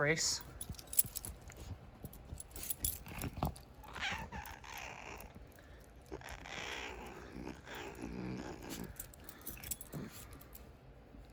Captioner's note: Caprice meows then growls